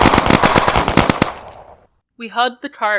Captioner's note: gunfire